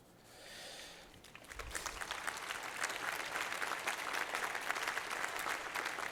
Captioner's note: applause